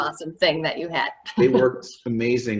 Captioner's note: laughs